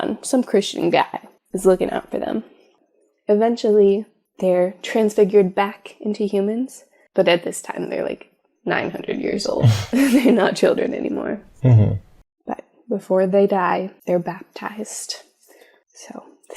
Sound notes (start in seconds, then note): 9.6 laugh